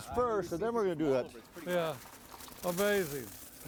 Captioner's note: chips rustling; chips crunch and scatter